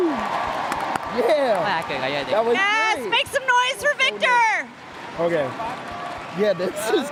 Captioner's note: cheers and applause; cheers and applause